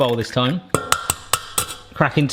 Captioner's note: cracking